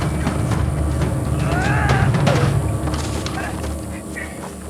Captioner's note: yells